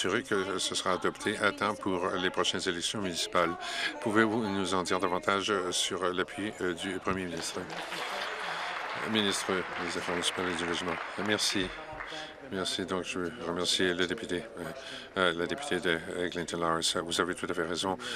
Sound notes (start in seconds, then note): 9.2 applause